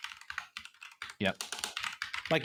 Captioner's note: keyboard clicking